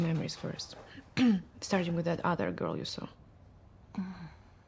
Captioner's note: clears throat